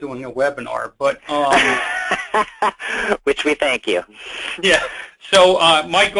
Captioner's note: laughing